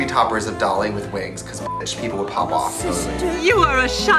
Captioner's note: beeps